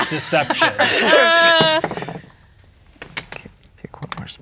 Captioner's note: players laughing; dice rolling; quietly